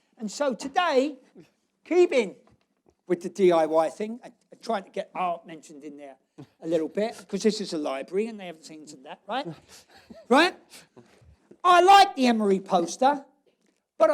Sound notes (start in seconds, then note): 9.5 laughs